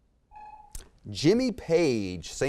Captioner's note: timer sounds